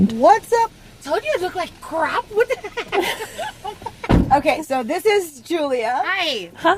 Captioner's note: laughs